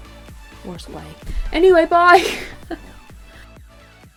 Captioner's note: laughs